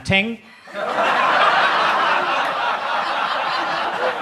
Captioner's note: audience laughs